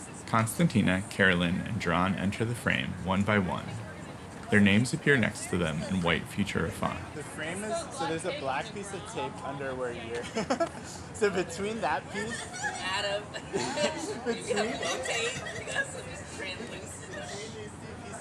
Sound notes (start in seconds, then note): 10.2 laughs; 15.9 everyone laughs and chats indistinctly